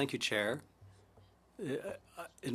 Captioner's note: speaking French